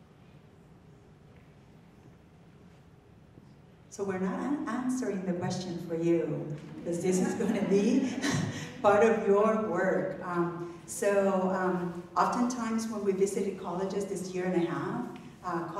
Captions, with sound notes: So we're not answering the question for you. (audience laughing) Because this is gonna be (laughs) part of your work. Oftentimes, when we visited colleges this year and a half,